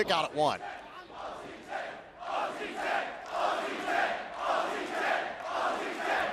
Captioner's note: fans chanting